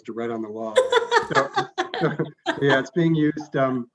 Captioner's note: laughing